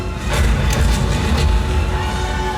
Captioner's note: explosions